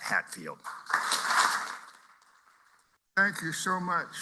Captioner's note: applause